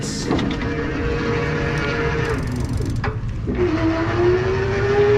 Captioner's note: motor engine roaring